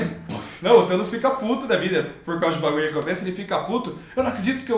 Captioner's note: slurred